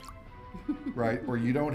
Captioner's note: laughing